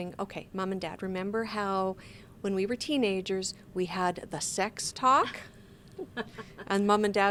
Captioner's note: laughs